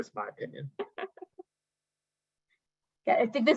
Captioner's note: chuckles